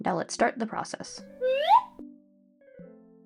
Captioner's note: slide whistle